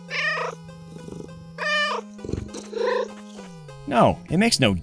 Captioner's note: meow